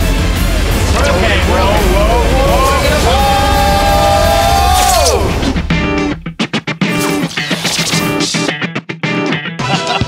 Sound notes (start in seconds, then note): 2.0 yelling; 5.6 upbeat music